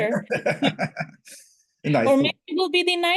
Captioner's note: laughter